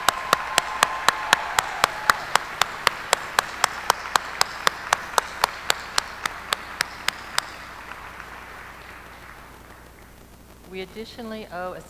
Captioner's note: applause